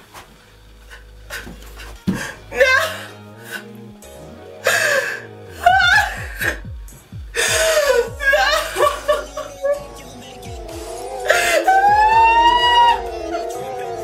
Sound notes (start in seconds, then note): 7.3 Renee cries; 11.2 Renee screams